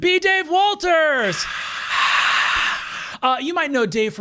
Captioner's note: hissing